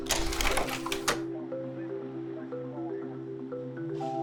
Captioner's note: slide projector clicks